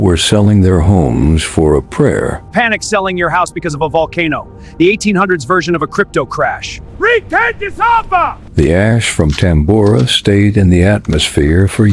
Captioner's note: sarcastic Commentary